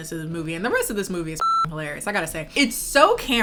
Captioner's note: beep